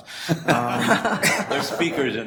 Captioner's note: board laughing